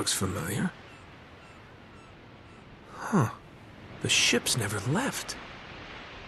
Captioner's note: in-game audio